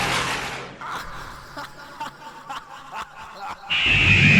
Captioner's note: the master laughs